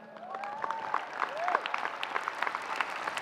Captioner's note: applause